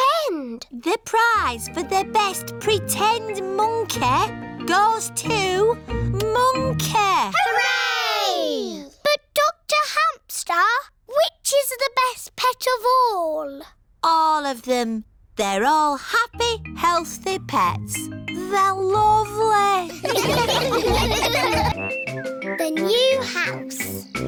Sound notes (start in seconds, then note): 19.9 all laugh